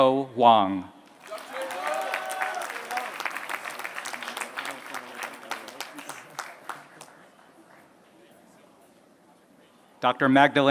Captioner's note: applause